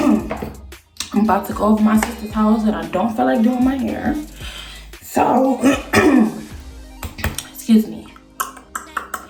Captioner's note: clears throat